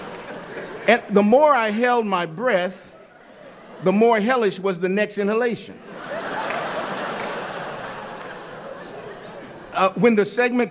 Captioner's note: laughter